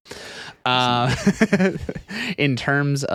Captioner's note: laughing